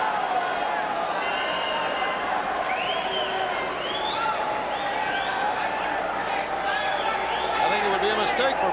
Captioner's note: crowd chatter